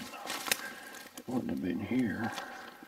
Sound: twigs snapping

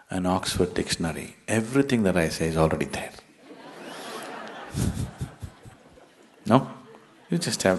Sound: laughter

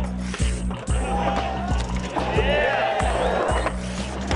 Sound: skateboard scrapes the pavement; crown cheers

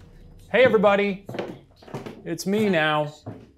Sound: footsteps treading

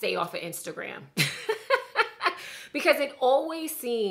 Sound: laughing

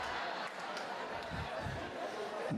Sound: laughter

